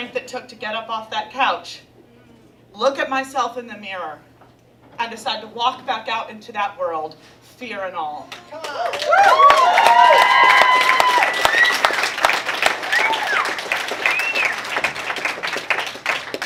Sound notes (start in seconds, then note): 8.6 applause